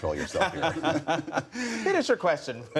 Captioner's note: laughter